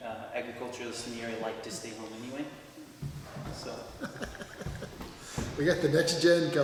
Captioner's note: laughs